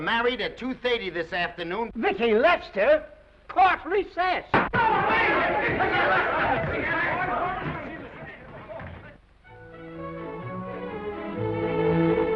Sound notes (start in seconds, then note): 4.3 gavel bangs; 4.8 all chattering; 9.6 upbeat music